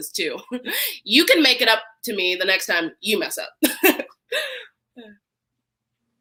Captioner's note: laughs